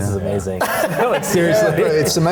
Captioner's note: laughing